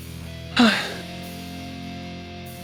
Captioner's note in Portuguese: suspira